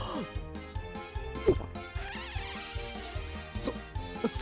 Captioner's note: gulp